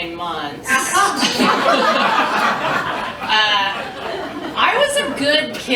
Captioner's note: laughter